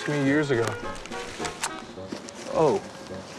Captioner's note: click